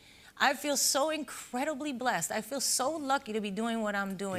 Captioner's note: none